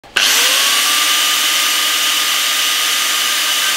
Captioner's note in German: Flexgeräusche